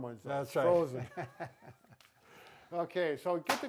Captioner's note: laughing